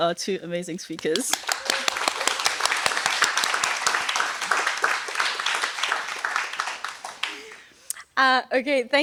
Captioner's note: applause